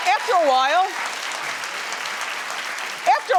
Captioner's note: audience cheering